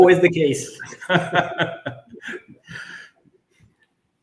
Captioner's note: both laughing